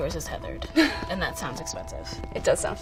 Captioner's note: laughing